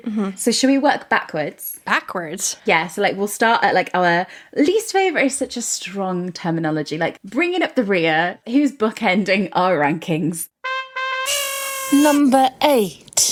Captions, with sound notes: So should we work backwards? - Backwards? - Yeah, so like we'll start at our...least favorite is such a strong terminology, like bringing up the rear, who's bookending our rankings? (horn honking) - Number eight.